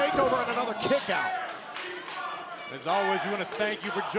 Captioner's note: crowd cheering